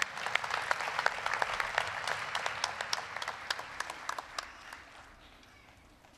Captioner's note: applause